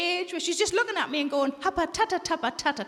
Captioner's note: Sarah speaking gibberish